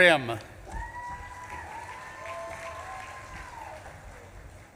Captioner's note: audience claps and cheers